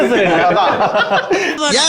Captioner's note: men laugh